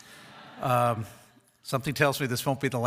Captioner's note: audience chuckles